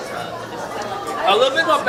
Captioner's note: all chattering